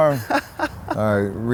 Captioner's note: laughs